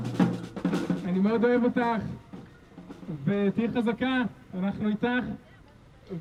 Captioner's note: speaking foreign language